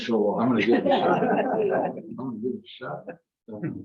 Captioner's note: members laugh